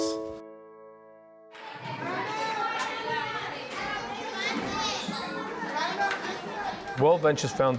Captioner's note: sounds of child interacting